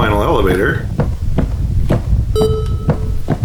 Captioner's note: footsteps